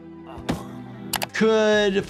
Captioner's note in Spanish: Ned gime y da un golpe sordo